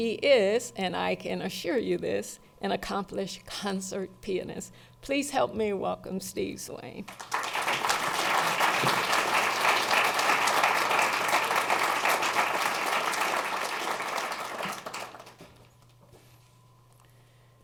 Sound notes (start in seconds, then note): 7.4 applause